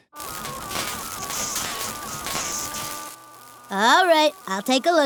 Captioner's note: machine crackling and buzzing